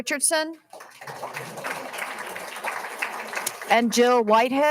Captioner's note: all applauding